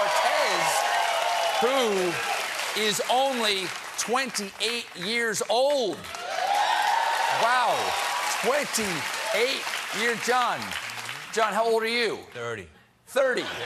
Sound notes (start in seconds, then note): 2.8 applause; 5.9 cheers